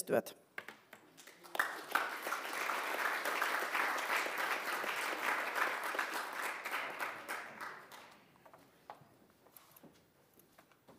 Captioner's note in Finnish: aplodit